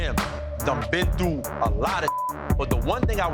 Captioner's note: beep